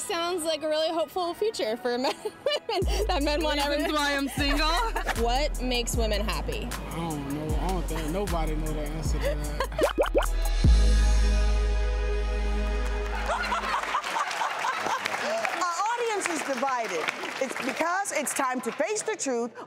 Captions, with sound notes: Okay, that sounds like a really hopeful future for men and women that men wanna have a-- Is this why I am single? (laughter) What makes women happy? I don't know. I don't think there are nobody that know the answer to that. (bubble sounds) (audience applause) (laughter) Our audience is divided. It's because it's time to face the truth